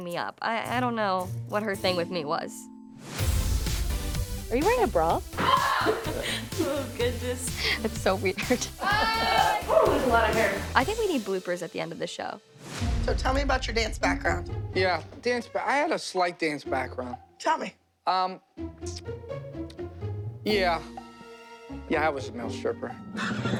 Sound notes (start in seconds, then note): 5.4 laughing; 8.8 laughter